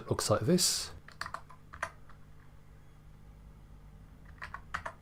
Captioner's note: keyboard typing